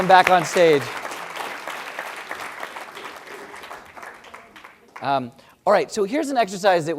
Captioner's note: applause